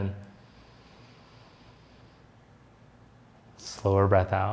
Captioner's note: inhales deeply